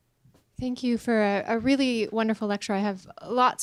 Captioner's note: voiceover